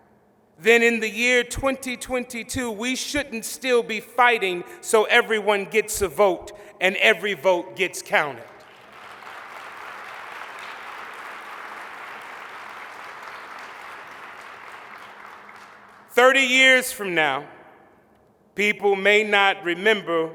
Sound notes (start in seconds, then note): 8.4 applause